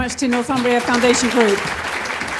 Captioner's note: applause